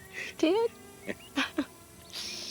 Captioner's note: both laughing